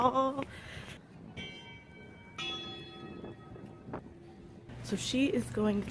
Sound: bells ringing

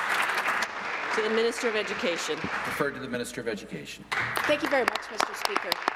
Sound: applause

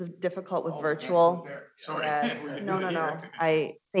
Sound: murmuring

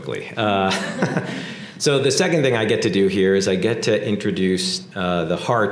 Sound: laugh

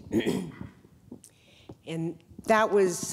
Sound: clears throat

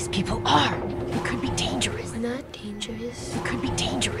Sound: timidly

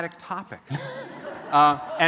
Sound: laughter

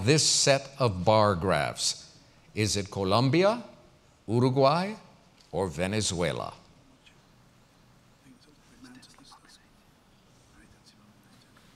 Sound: pause

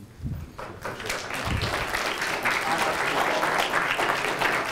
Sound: attendees applauding

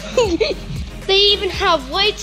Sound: laughs

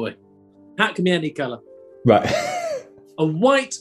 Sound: sniggering

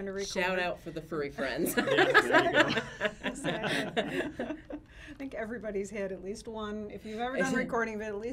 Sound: laughs

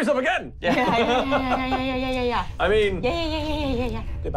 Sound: stammering

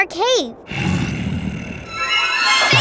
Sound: growling

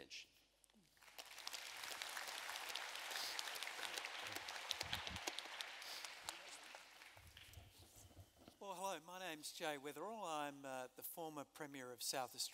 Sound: applause

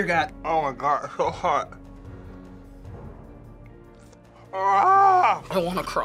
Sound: screams

